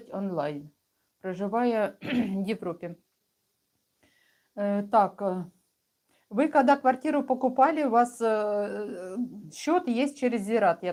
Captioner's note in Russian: откашливается